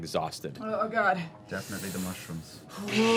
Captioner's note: groans